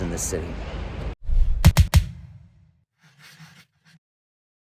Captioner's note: air whooshing